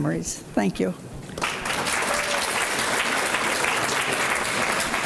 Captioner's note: applause